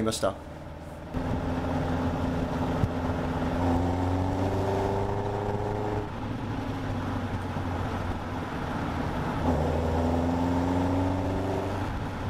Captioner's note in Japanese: エンジン音